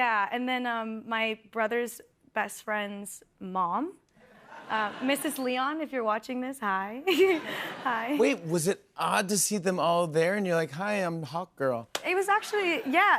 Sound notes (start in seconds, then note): 7.0 laughter